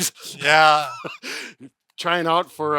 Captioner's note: laughs